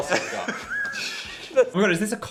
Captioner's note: everyone laughs